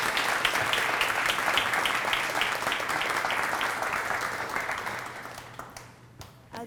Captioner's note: applause